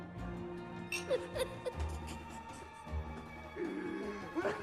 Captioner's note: chuckling